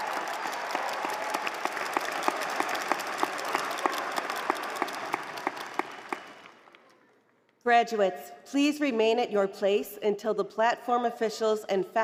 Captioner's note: cheers and applause